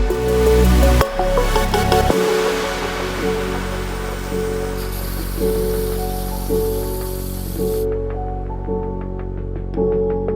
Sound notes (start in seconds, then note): 0.3 gentle music; 5.5 spray can hissing